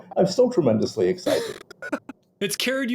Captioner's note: chuckle